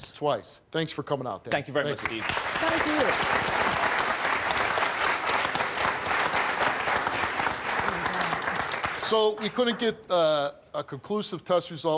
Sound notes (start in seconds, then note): 1.9 applause